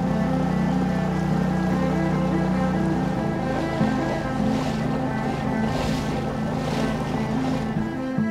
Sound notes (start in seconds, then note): 0.0 gentle music; 4.7 water splashing